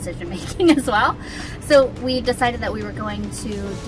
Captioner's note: laughs